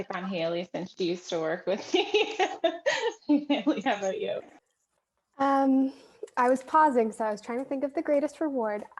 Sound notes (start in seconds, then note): 1.8 laughter